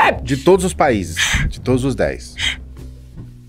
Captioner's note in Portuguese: Shhh